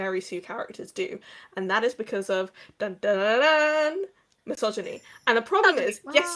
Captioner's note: mimicking trumpet noises